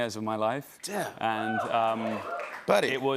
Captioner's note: cheering